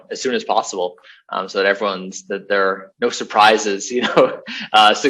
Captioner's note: laughs